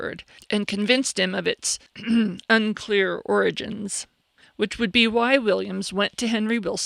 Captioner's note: ahem